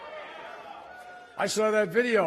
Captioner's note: cheers